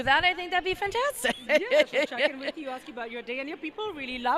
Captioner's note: laugh